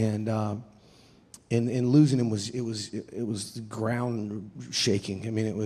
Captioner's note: none